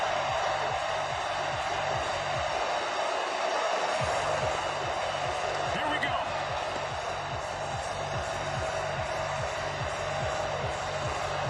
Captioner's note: cheering